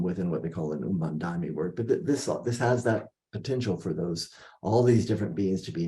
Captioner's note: non-english speech